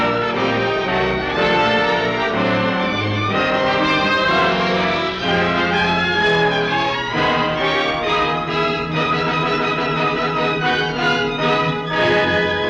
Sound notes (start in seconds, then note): none